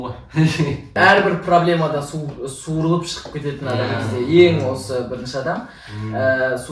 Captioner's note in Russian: смеется